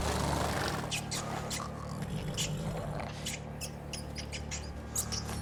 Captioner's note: rat squeaking